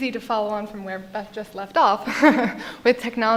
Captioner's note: laughs